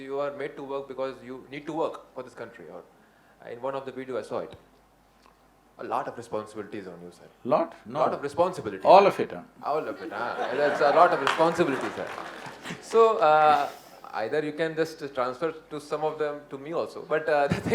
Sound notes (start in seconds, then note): 12.7 laughter/Applause; 15.7 laughs